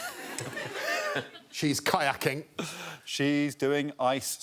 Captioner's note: laughter